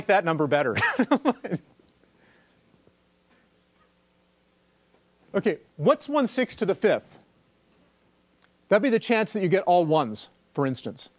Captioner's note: laugh